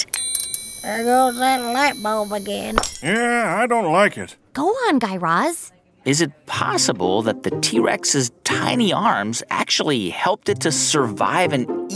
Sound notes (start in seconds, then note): 0.0 soundbite of ding, light bulb turning on; 3.5 soundbite of lightbulb breaking/turning off